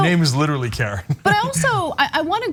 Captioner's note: laugh